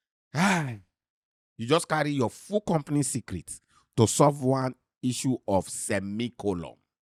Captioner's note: sighs